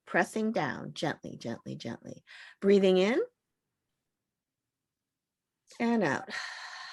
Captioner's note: audible exhalation; audible inhalation